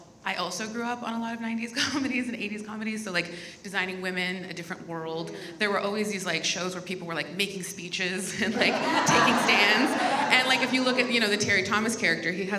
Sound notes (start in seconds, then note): 8.4 audience laughs